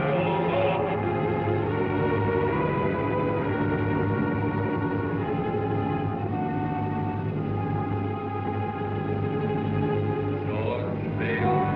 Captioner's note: distorted voices